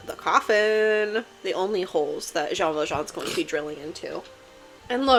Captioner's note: my cat sneezes